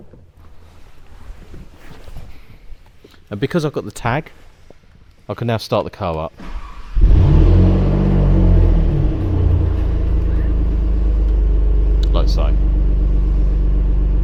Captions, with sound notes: And because I got the tag. I can now start the car up. (engine noise)